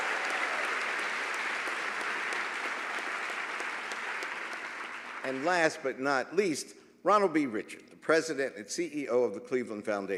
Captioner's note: applause